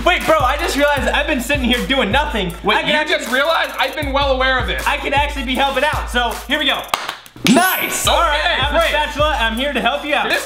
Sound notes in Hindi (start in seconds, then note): 6.8 ताली बजाता है; 7.5 घंटी की आवाज़